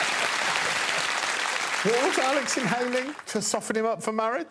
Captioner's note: applause